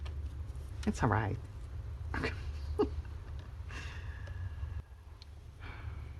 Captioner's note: laughs